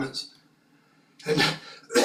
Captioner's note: cough